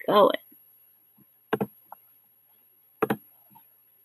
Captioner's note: tapping